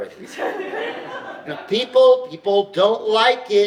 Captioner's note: audience laughs